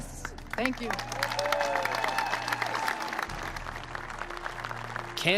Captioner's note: cheering and applause